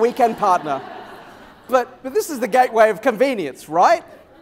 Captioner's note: laughter